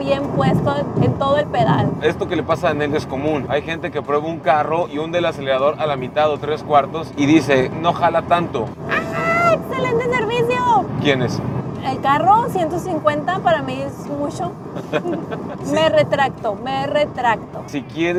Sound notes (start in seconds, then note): 14.7 laughter